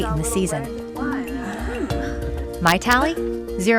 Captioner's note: club members chattering